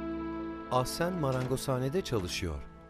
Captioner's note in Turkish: Kapı açılma sesi